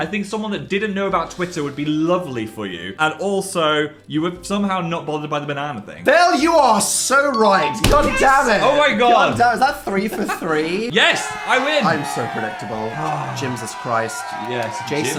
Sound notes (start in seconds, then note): 13.2 Phil sighing; 13.2 crowd cheering